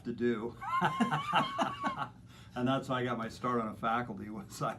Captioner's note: laughter